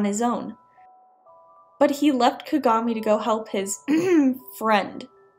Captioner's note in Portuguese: cof cof